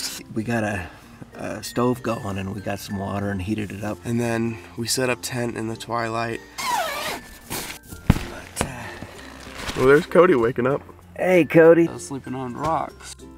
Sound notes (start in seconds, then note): 6.5 unzipping tent door